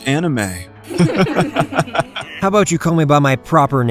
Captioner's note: bullies laugh